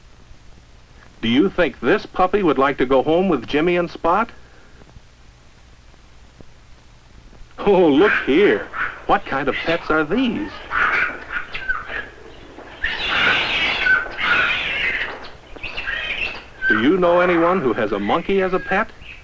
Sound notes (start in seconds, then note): 10.6 irritating squawking and screeching